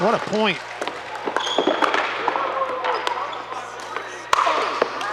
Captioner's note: people chattering